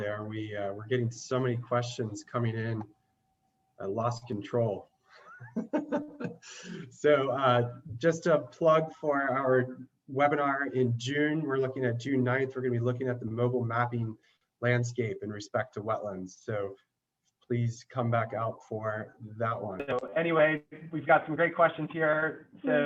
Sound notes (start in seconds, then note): 5.3 laughs